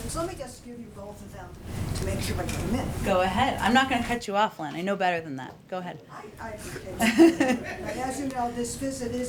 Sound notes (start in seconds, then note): 6.9 laughter